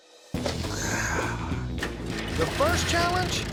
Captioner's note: exhales